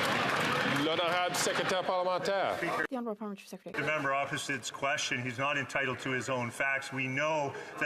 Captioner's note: some Applause